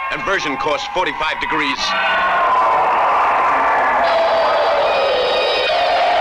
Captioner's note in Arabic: هدير محركات الصواريخ